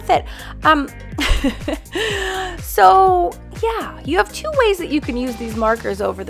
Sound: chuckles

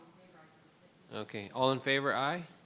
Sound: speaker speaks faintly

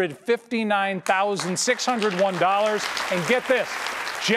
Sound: audience applause

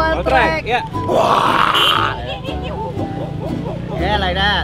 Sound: making animal noises

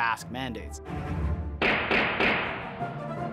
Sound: gunshots

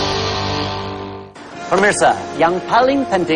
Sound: non-english speech

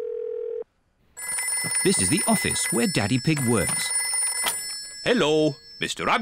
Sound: phone rings

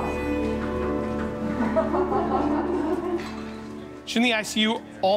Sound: both laughing

